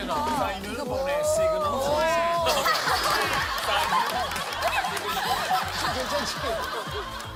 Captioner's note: laughter